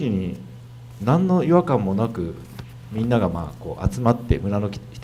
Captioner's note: speaking foreign language